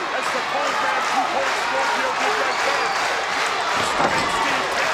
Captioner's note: audience applauding